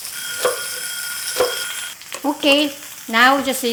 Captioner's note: timer rings